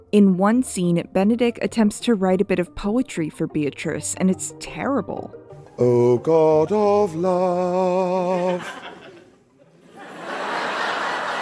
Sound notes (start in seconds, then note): 8.2 audience member chuckles; 9.6 audience laughter and applause